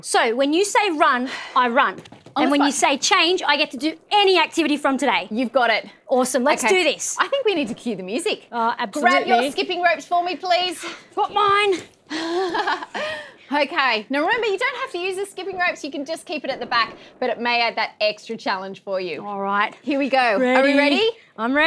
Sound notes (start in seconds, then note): 12.1 laughs